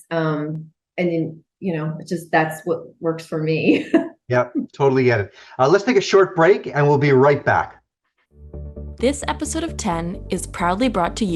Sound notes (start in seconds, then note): 3.6 laughing